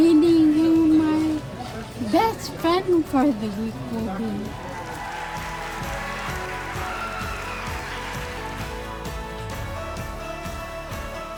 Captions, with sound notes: who my best friend for the week will be. (audience applauding)